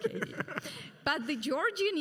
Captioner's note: laughs